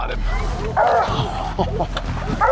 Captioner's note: chuckles; dogs barking